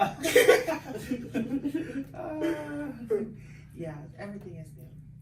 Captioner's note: laugh